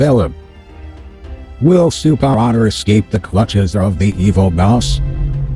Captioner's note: voiceover